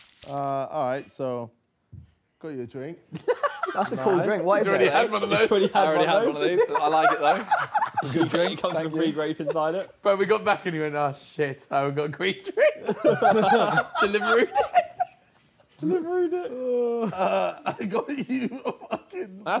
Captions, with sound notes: - All right. So go your drink. - That's a cool drink. - I got grape inside it. - But we got back in here. Nice shit I got great. (group chattering)